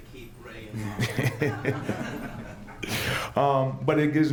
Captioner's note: laughter